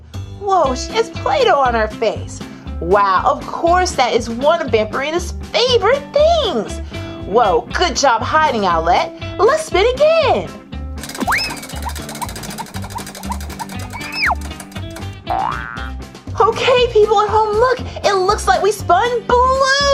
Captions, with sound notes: Whoa, there's Play-Doh on her face. Wow, of course, that is one of Vampirina's favorite things. Whoa, good job hiding, Owlette. Let's spin, again. (spinning, clacking) (spring boings) okay, people at home, it looks like we spun blue!